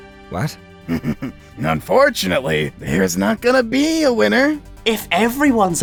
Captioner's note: laughs